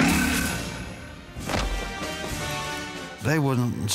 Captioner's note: thud